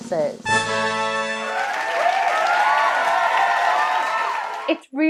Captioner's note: horns blaring; crowd cheering